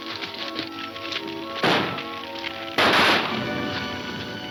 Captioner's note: gunshots banging